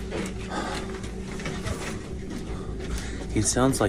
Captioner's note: heavily breathing